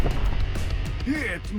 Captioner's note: explosion